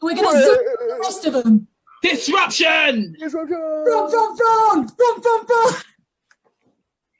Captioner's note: shouts